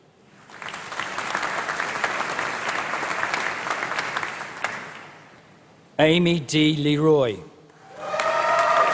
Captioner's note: applause; applause